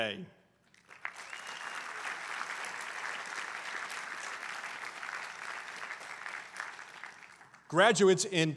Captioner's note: applause